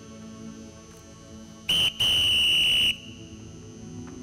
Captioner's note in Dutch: fluit